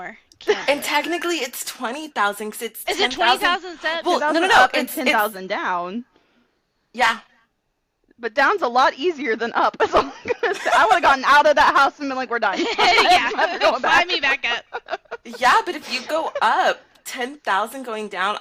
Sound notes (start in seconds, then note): 12.5 laughter